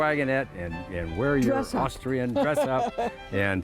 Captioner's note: laughs